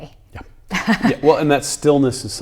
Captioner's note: laughing